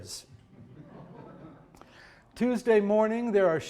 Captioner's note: audience chuckling